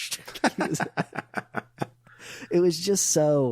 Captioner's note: laughing